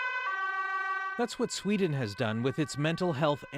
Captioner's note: sirens